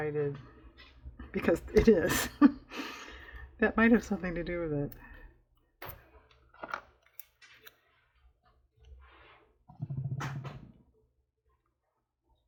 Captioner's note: laughs